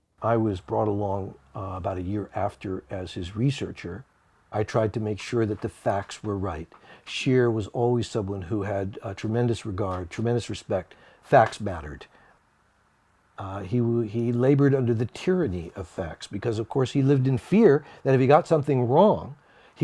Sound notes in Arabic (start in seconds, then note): none